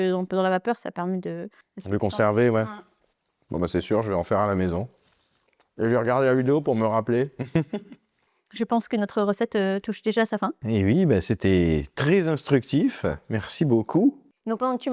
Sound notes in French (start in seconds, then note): 7.3 rires